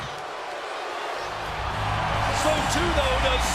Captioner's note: crowd boos